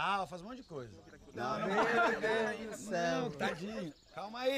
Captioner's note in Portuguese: risada